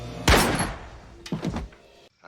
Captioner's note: gunshot; thud